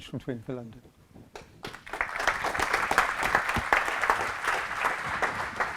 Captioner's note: audience applauds